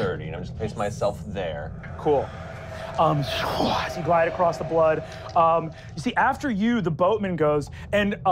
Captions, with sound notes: And I'm just gonna place myself there. - Cool. (wooshing) as you glide across the blood. You see after you, the boatman goes,